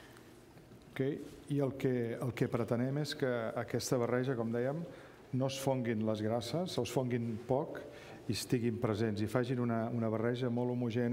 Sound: speaking catalan

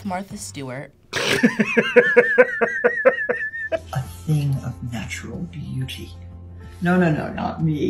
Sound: laughs

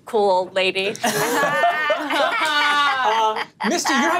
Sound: all laughing

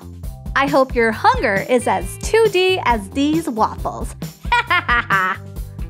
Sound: laughter

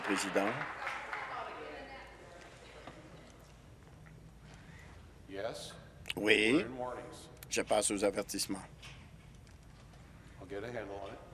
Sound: applause

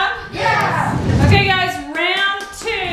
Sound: whooshing

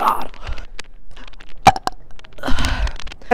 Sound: burp

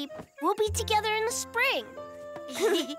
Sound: giggling

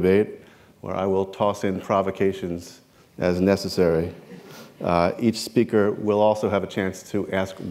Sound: chuckle

